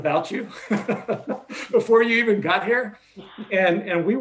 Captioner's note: laughs